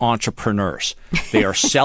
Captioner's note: laughter